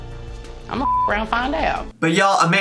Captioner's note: beep